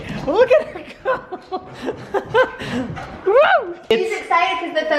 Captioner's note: shouts